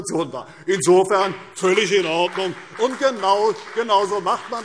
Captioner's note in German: Beifall CDU und BÜNDNIS 90/DIE GRÜNEN